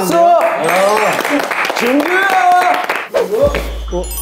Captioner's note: warm applause for the host..!